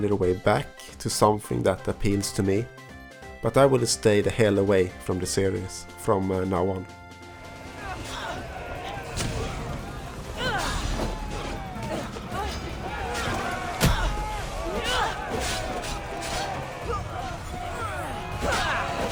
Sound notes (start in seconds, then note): 7.1 sounds of senseless violence